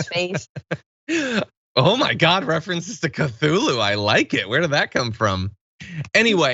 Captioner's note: laugh